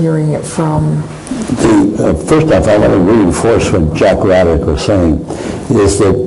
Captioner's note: microphone disturbance